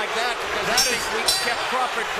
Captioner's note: bell rings